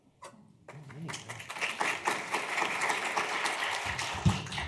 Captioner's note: group applauding